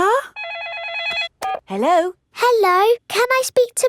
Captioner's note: phone rings